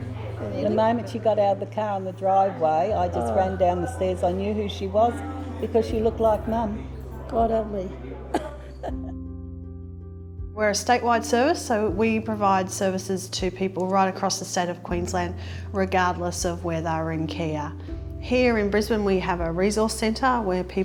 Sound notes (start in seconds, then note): 8.2 laughs